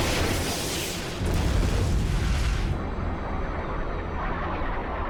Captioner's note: explosion